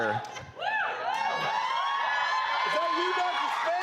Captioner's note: crowd cheering